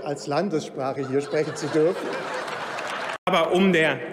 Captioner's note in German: Heiterkeit und Beifall bei Abgeordneten im ganzen Hause